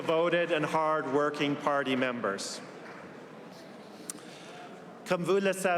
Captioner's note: applause